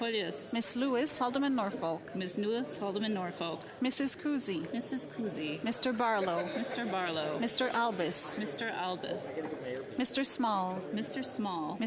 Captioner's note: calling of recorded vote